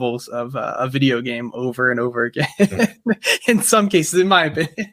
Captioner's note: laughs